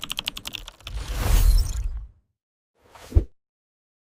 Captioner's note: typing